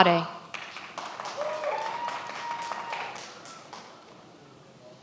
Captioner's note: many applauding